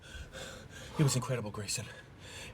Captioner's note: panting; squawks